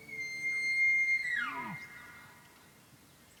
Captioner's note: elk bugles